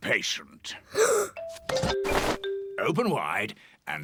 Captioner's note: gasps